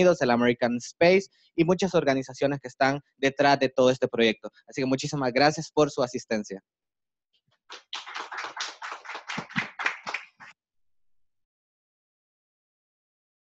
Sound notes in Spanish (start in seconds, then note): 7.7 aplausos